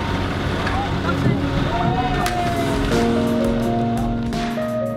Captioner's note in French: exclamation positive collective